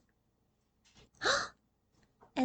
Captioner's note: gasp